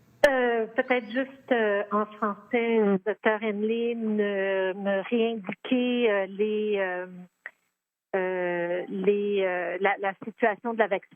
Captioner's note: speaking French